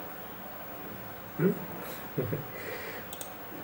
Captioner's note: chuckles